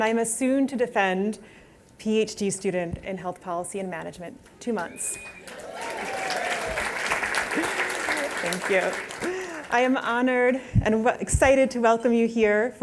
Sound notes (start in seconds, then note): 5.1 applause